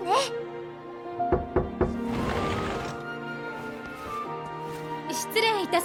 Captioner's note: knock knock knock……